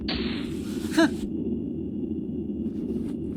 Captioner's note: impressed scoff